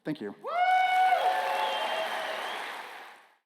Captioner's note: applause